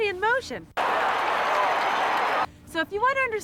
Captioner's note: crowd cheering